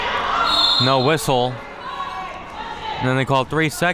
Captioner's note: whistle being blown